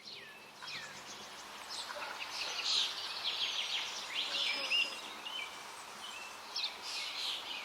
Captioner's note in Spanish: sonidos de río, trino de pájaros